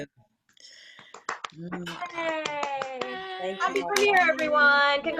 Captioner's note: all applauding